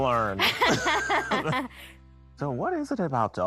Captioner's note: both laughing